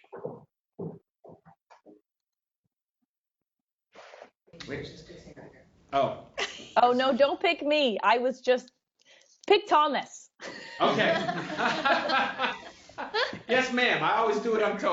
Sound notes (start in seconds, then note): 10.4 laughter